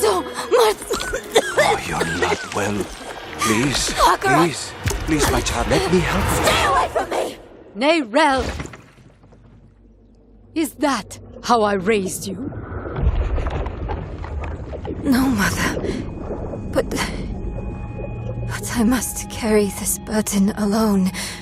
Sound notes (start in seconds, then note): 0.6 chanting and coughing; 6.5 distorted voice